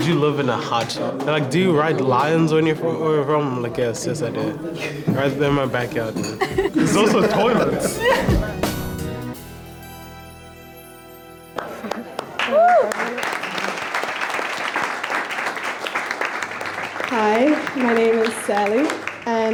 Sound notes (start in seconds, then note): 8.1 everyone laughs happily; 11.5 crowd cheers and claps